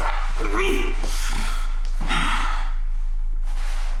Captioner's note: David grunting